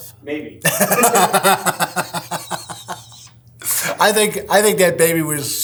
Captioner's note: laughs